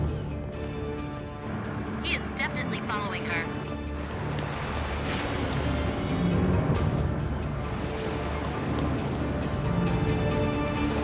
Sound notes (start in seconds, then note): none